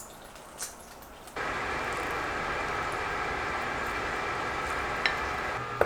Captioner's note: the sound of preheating the oven